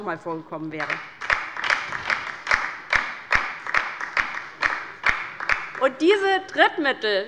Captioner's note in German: Beifall bei der LINKEN